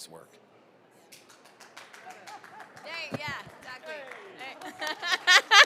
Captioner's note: audience clapping; laughing